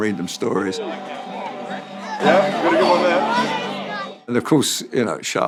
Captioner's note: people talking loudly